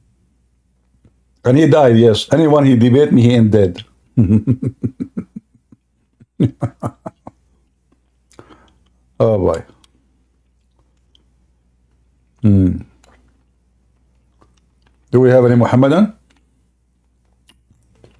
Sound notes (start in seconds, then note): 4.1 Ketawa